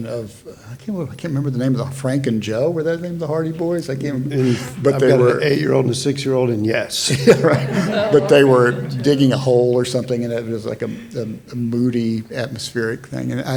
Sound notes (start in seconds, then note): 7.0 audience laughs